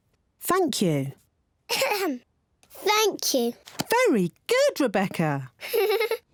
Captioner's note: clears throat; giggles